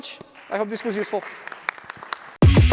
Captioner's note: applause